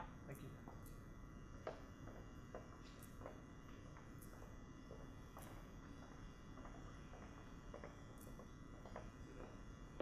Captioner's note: footsteps